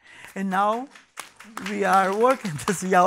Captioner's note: audience applauding